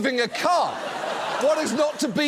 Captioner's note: studio audience laughs